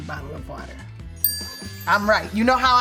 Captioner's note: bell ringing